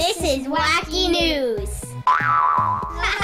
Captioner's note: sound effect: “Boing!!”